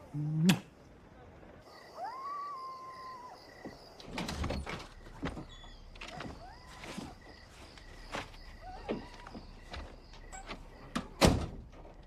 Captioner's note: kiss